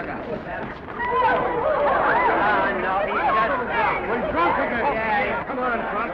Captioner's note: excited chatter; commotion